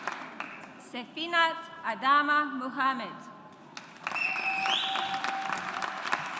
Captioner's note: audience applauds